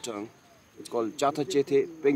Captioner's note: speaking in foreign language